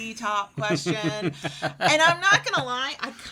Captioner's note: laughs